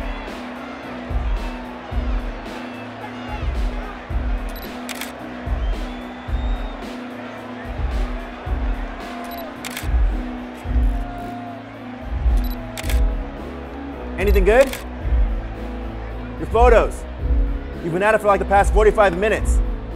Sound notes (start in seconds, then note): 1.0 applause; 4.5 camera shutter; 9.2 camera shutter; 12.7 camera shutter